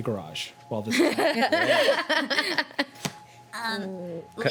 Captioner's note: laughing